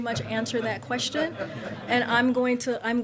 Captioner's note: laughter